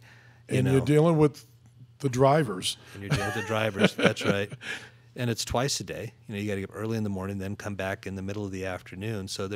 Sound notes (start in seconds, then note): 3.0 laughing